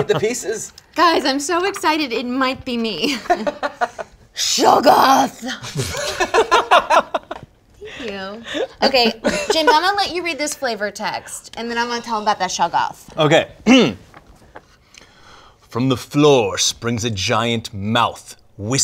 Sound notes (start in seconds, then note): 3.2 he laughs; 5.6 they laugh